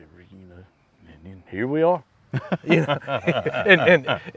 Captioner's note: laughs